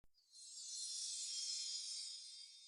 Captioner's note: sparkle sound effect